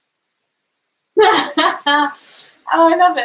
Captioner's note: laughs